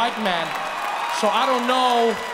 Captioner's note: audience cheering